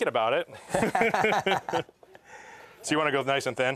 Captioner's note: laughter